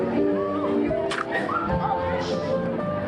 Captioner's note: can crushes